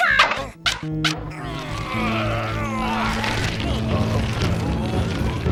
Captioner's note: men grunting